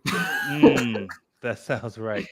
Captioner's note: laughs